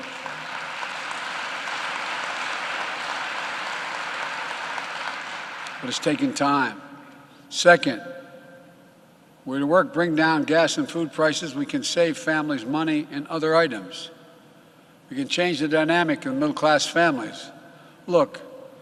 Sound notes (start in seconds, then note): 6.5 applause